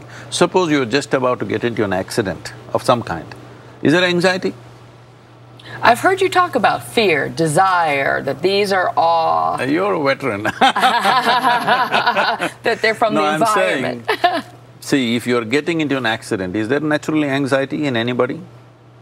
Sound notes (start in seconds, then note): 10.4 laughter